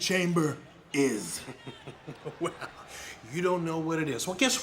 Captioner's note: laugh